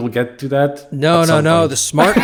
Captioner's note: laugh